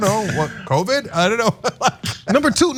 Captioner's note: laugh